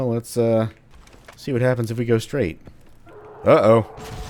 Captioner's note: Destroyer howl